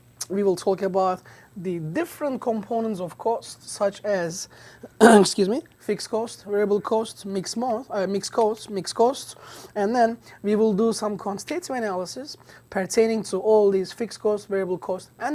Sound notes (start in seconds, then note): 4.9 coughs